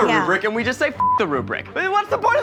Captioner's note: beeps